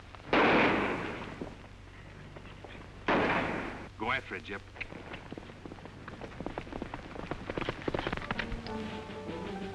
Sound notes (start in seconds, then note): 0.3 gunshot; 3.0 gunshot; 6.3 hooves pounding; 8.3 ominous music